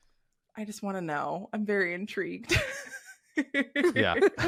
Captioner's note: chuckles